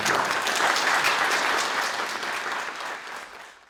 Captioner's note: audience applauds